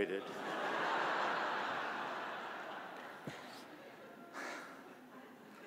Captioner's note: audience laughing